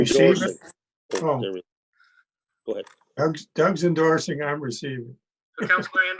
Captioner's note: laughs